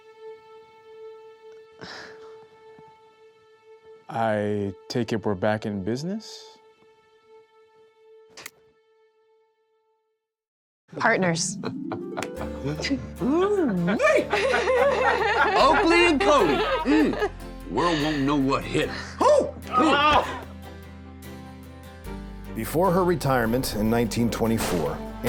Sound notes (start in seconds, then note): 11.6 buffalo bill laughs; 13.8 laughter